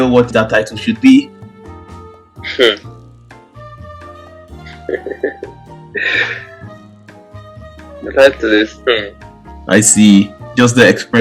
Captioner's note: chuckles